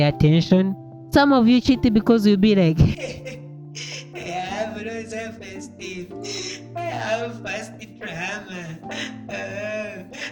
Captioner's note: in crying voice